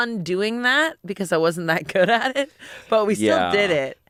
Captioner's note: laughs